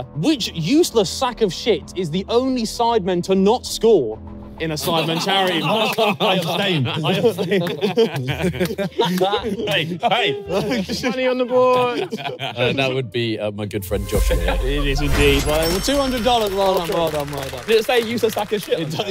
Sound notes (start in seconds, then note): 5.7 all laughing